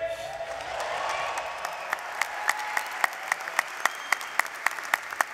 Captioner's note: applause